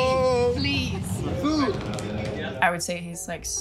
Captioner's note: drums tummy